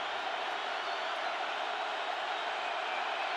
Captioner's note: crowd cheering